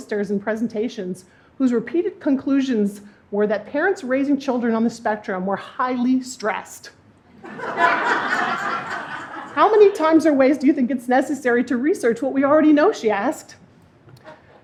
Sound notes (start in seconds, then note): 7.5 laughing